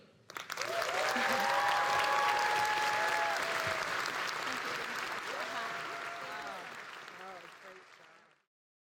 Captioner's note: applause